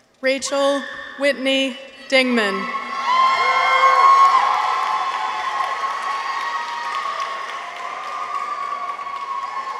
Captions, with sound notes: Rachael Whitney Dingman. -(people cheer) -(audience applauds)